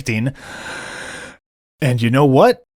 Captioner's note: inhale